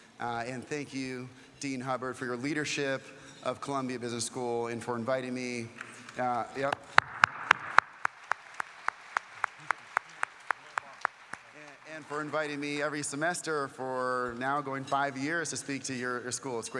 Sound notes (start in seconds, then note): 6.6 applause